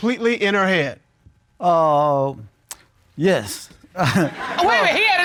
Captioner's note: chuckles